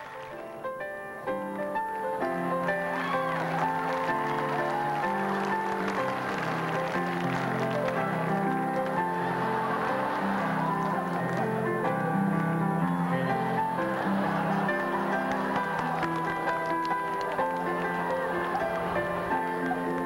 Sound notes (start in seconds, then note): 3.2 laughter